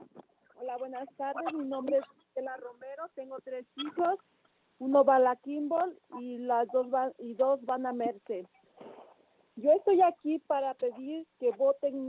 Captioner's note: speaks non-English language